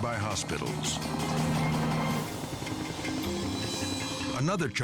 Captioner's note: helicopter rumbling